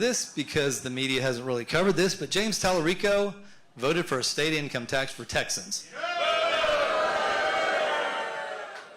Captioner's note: applause